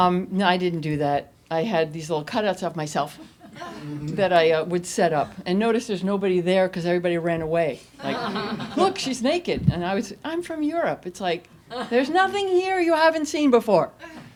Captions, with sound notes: No, I didn't do that. I had these little cutouts of myself that I would set up, and notice there's nobody there because everybody ran away (audience laughs). Look, she's naked! I would say, I'm from Europe. It's like there's nothing here you haven't seen before.